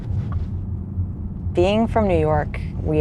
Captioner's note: laugh